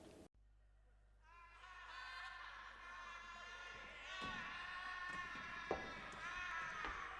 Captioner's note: background bedlam of insane asylum